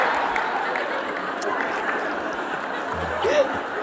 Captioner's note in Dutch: gelach